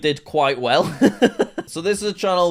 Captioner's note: laughs